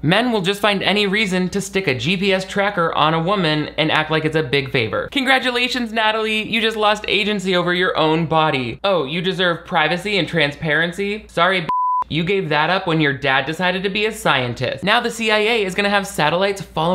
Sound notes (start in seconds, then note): 11.6 beep